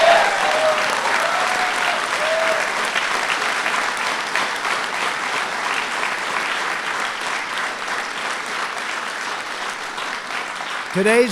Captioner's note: applause